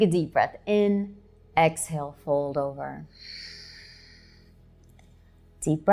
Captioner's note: exhaling